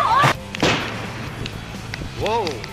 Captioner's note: gun shots